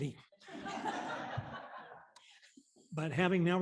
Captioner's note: laughter